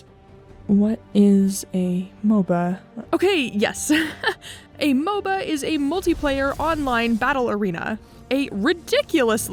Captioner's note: laughs